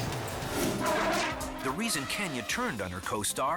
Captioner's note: elephant growls